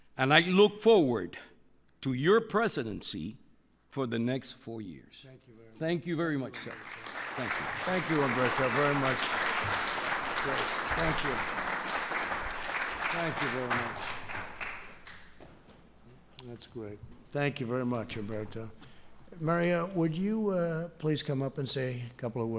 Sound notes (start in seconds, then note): 6.5 applause